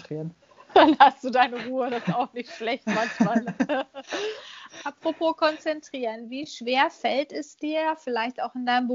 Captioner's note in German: lacht